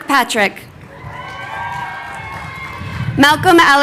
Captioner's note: crowd cheering